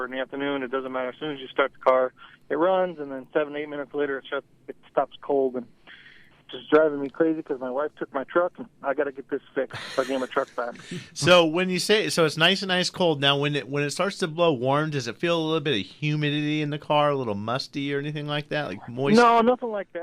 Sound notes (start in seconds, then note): 9.7 group laughs